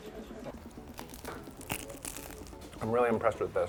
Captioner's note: crusty bread crunch